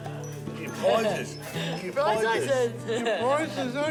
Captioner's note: laughs